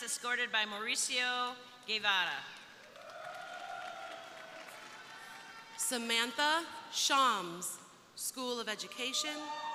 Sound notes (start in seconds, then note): 2.7 crowd applauding; 2.9 crowd cheering